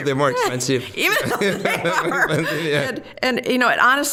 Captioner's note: both laughing